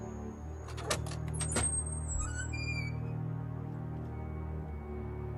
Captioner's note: door hinge creaking